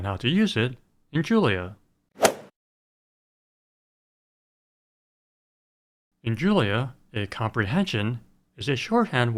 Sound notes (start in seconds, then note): 2.2 swoosh